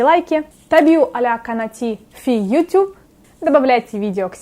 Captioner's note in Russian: говорю на арабском